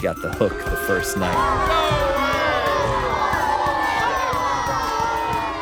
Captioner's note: crowd booing